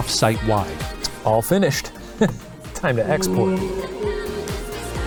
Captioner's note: laughs